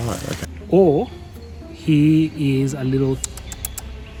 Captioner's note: rat sounds